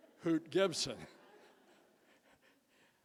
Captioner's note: chuckles